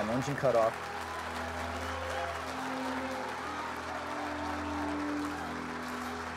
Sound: crowd cheering

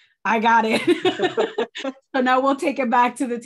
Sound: laughs

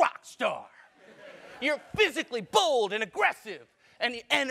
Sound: laugh

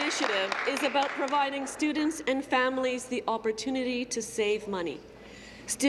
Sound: applause

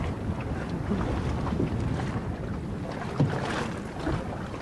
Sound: water splashing

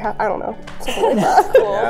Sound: laughter

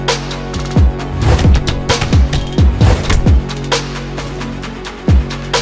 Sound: punches thudding

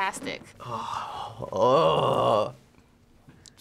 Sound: groans excitedly

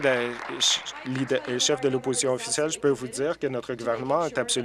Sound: applause

